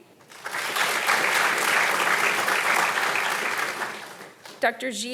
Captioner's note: audience applauding